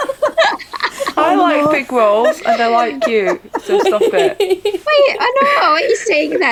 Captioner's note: laughter